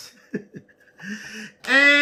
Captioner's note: laughing